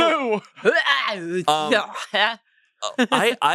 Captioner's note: laughs; gags